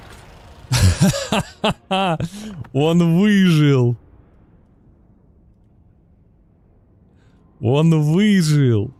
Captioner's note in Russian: смех